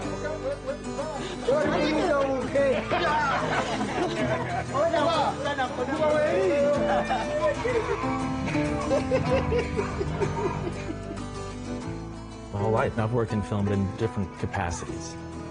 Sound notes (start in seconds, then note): 4.0 people chattering; 4.0 spanish guitar music; 8.7 laughing